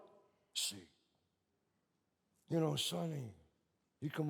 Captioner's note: none